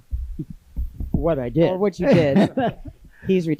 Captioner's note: laughs